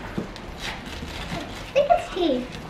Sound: paper tearing

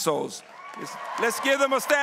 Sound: applause

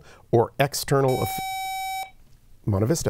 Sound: buzzer

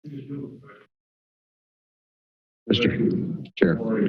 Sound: silence

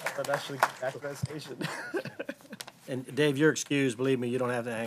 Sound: applause

